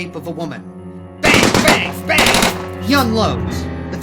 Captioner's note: gun shooting